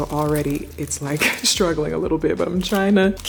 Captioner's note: laughs